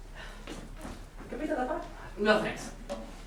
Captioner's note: speaking grammelot